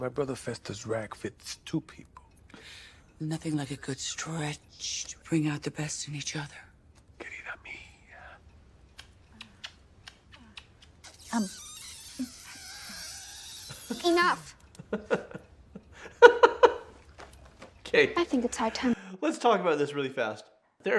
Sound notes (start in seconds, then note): 7.7 speaking in foreign language; 8.9 smooching